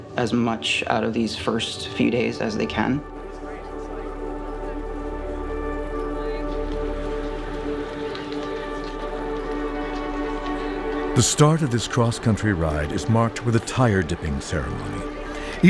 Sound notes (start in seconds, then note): 4.0 background chatter; 6.7 slow dramatic music